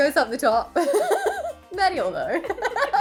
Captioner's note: laughing